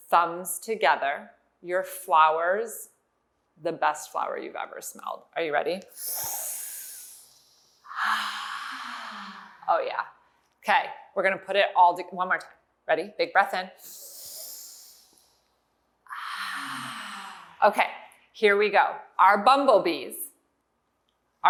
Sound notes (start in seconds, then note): 6.0 inhales; 7.9 exhales; 14.1 inhale; 16.1 exhale